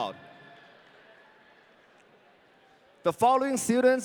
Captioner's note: audience cheering